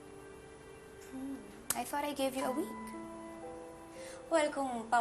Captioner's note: amused sigh